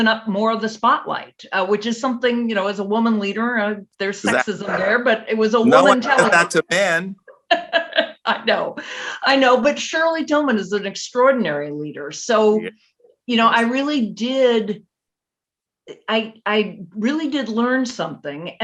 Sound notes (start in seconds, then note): 5.6 laughs